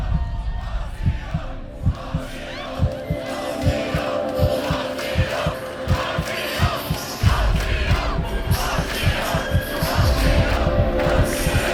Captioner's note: “ ”-chants intensify